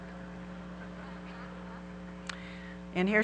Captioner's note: audience laughing